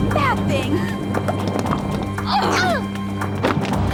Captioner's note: laughing